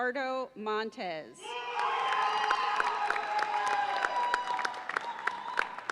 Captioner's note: audience cheers and applauds